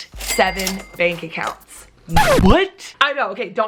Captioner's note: record scratches